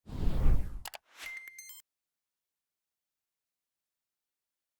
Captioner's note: logo whooshing; mouse clicking